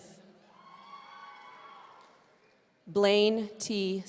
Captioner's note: audience cheering